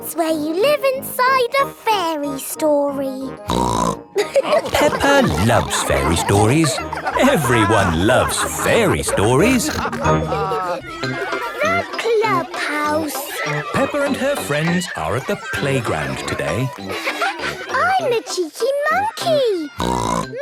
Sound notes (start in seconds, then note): 3.4 snorts; 3.7 all laughing; 19.7 snorts